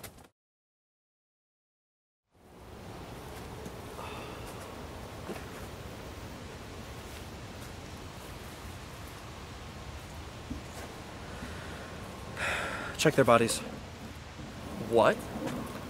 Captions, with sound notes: (eerie quiet wind in the trees) (mournful sighs) (sighs) Check their bodies. - What?!